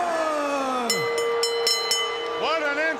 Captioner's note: bell ringing